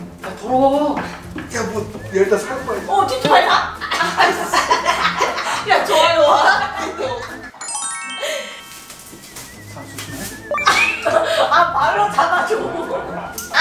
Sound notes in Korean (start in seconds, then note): 2.9 웃음; 3.4 띠용, 효과음; 10.5 뿅, 효과음